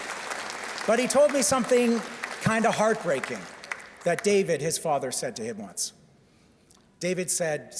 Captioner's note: cheers and Applause